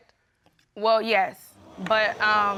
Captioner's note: audience exclaiming